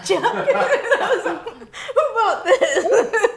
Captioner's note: laughing